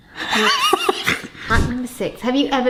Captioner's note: laughs